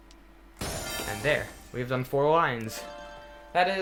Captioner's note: finish sound